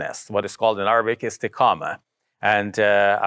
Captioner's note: foreign language